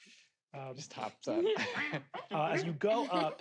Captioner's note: players meowing